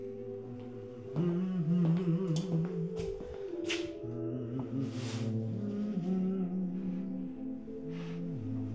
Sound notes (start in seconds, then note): 0.0 humming